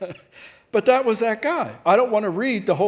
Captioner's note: laughing